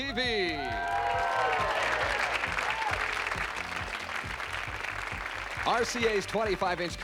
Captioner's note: applause